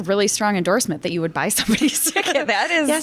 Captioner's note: chuckles